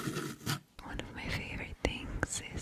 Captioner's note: whispering